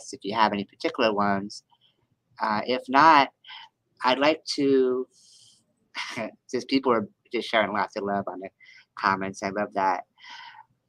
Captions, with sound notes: if you have any particular ones. If not, I'd like to, (chuckles) since people are just sharing lots of love on the comments, I love that,